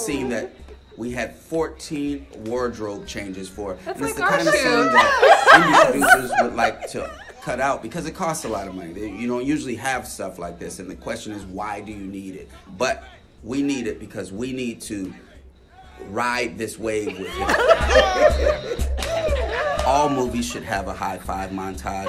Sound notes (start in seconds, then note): 3.9 friends laughs; 17.1 friends laughs; 18.9 Michael and Lakeith hands slapping